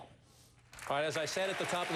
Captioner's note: applause